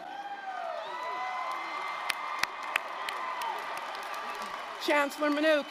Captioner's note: applause, cheering